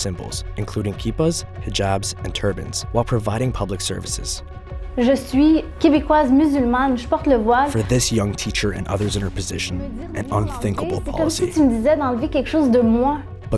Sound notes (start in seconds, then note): 4.7 speaks French; 11.6 speaks French